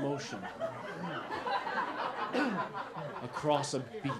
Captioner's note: laughter